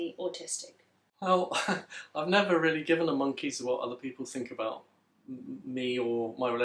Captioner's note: laughs